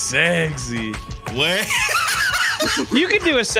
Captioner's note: laughs